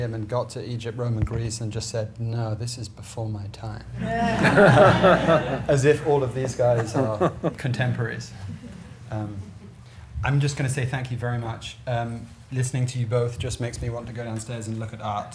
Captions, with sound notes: and got the the Egypt, Rome and Greece, and just said, "No, this is before my time." (laughter) As if all of these guys are contemporaries. I'm just gonna say thank you very much. Listening to you both just makes me want to go downstairs and look at art,